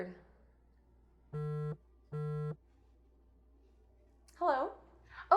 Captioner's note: phone buzzes